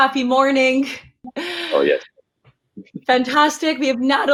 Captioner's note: laughs